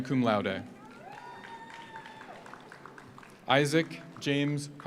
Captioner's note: audience cheers; audience applauds